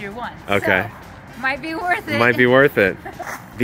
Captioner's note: chuckles